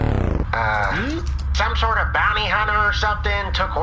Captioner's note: sighs